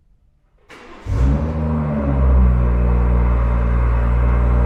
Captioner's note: car starts